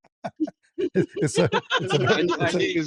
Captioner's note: ketawa